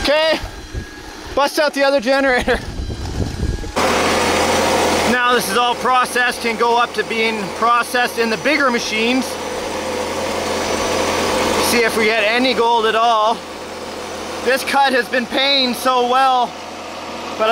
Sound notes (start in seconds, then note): 3.8 machines humming